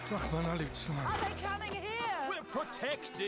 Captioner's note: speaking Hebrew